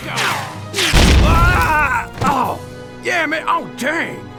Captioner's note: POOPLOSER_69 screams